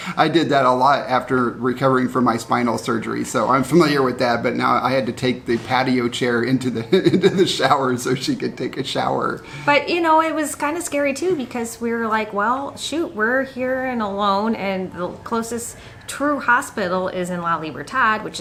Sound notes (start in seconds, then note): 6.8 chuckles